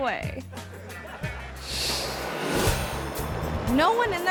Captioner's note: audience laughing; screen whooshes